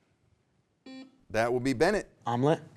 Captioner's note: buzzer beeps